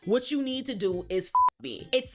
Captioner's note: beep